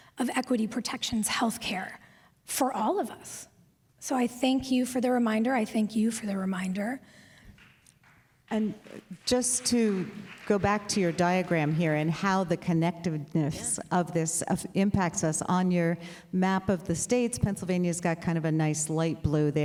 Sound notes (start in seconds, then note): 8.4 applause